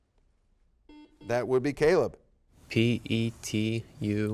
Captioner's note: buzzer beeps